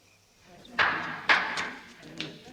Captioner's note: clapping